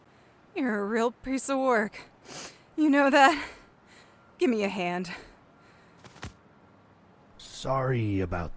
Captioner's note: sniff